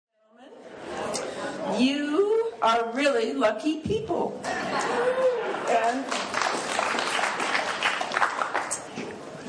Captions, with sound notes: [audience chatter] - You are really lucky people. [laughing] [clapping]